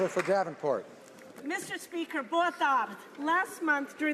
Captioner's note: some Applause